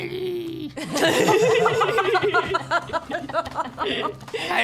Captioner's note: laughter